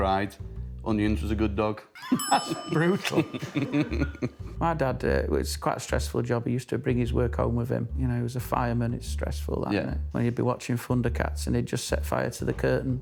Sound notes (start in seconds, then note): 2.0 laughing